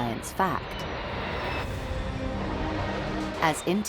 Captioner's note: jet engine roars